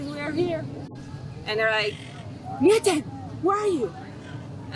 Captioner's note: hebrew